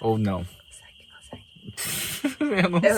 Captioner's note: whispering